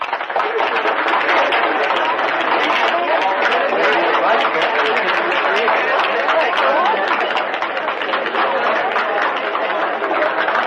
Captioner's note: audience murmuring